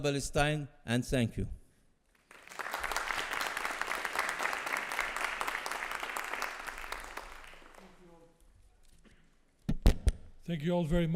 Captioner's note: applause